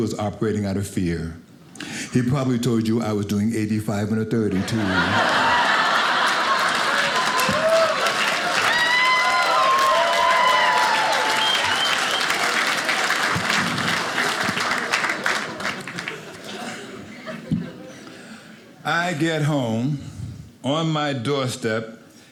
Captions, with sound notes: operating out of fear. He probably told you I was doing 85 in a 32. (audience applauding) I get home on my doorstep,